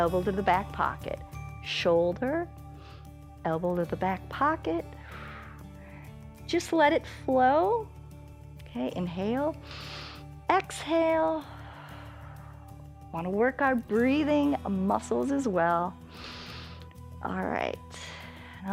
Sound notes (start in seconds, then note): 4.9 exhales; 9.6 inhales; 9.6 exhales; 16.1 inhales